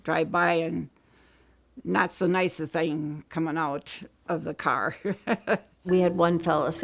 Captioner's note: laughs